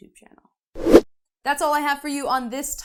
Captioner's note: air whooshing